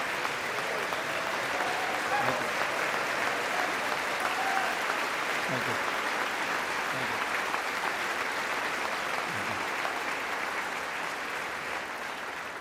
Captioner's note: applause